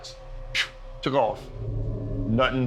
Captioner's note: imitating whooshing